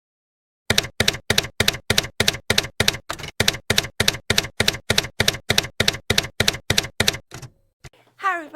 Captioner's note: typewriter keys clacking